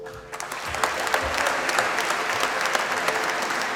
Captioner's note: applause